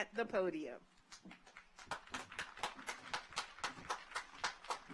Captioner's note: audience applauds